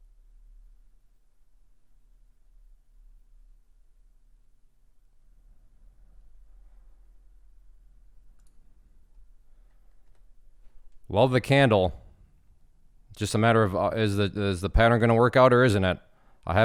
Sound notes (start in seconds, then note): 8.3 clicking and typing